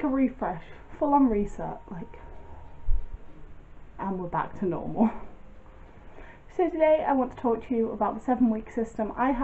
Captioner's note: deep breath